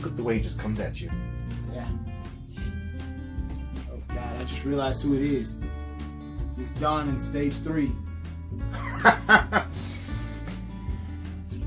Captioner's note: heavy breathing